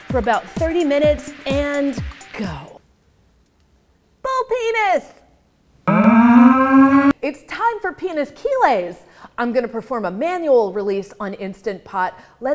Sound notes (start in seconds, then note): 5.8 bulls mooing